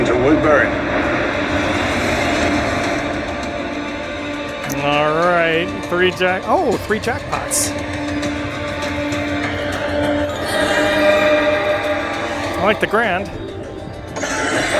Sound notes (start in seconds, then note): 10.2 slot machine chime